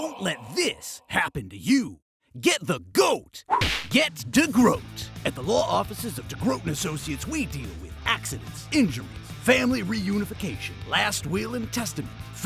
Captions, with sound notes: DEGROOT Don’t let this happen to you! Get the GOAT! (punch!) Get Degroot! (rock music plays) At the law offices of Degroot and Associates, we deal with: Accidents Injuries Family reunification Last will and testament